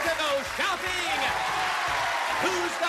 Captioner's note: cheers and applause